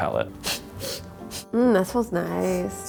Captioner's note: sniffing